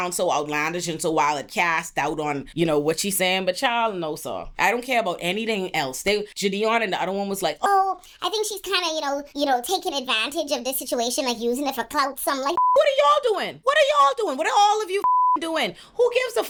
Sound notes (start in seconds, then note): 15.0 beep